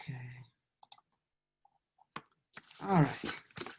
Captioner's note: mouse clicks